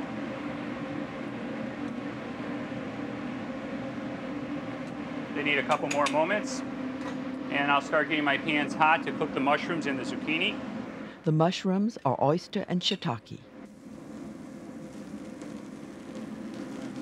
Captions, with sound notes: They need a couple more moments. And I'll start getting my pans hot to cook the mushrooms and the zucchini. - [Voiceover] The mushrooms are oyster and shiitake. (frying food sizzles quietly)